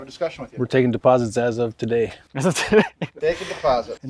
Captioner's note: laughs